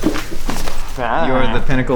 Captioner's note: Glorbglerp humming